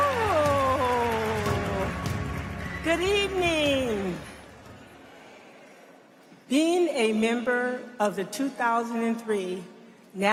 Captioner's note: applause